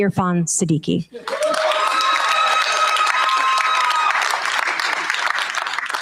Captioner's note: cheers, applause